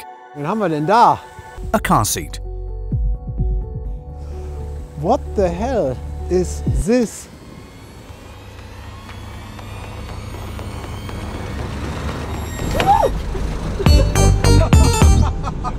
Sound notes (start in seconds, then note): 12.5 shrieks